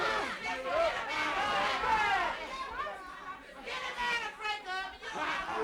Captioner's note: crowd continues yelling